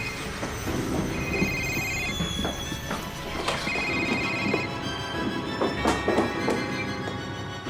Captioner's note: phone ringing; suspenseful orchestral music; phone ringing